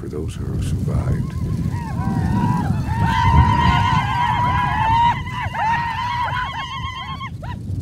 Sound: Shouts of Victory and Lu-Lu's

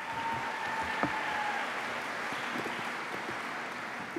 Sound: applause

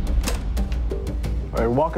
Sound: recorder clicks

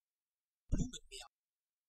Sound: fast Pronunciation

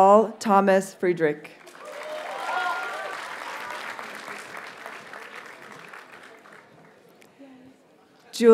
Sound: audience cheers and applauds

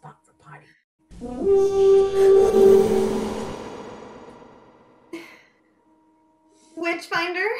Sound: deep horn, whoosh of smoke

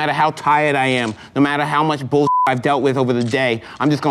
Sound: beep

